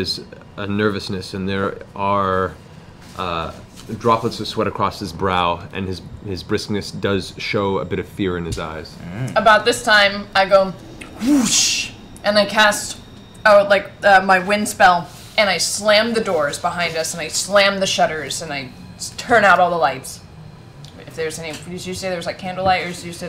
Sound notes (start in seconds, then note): 10.3 fwoosh